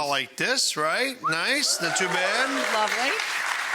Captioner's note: audience applauding